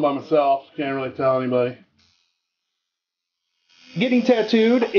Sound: tattoo needle buzzing

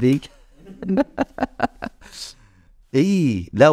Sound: laughs

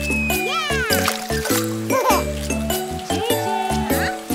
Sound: splashing

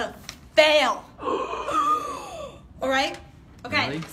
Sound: gasps

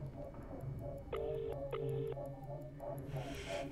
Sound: ringing tone

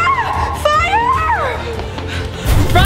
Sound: screaming

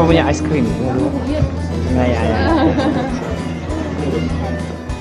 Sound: speaking German; laugh; background music

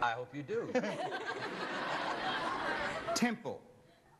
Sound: laughter

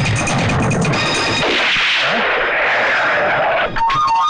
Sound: gunShot, Tire Screeching

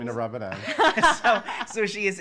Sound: laughs

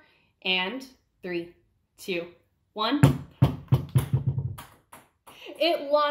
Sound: ball bouncing

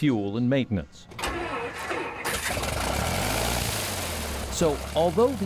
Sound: engine starting

